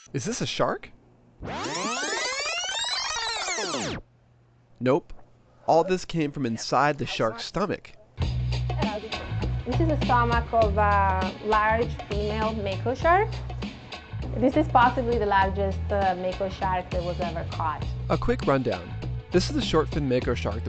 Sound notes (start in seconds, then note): 1.4 audio scratching; 8.3 upbeat music